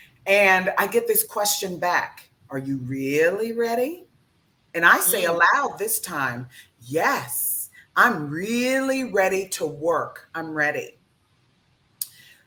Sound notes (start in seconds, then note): none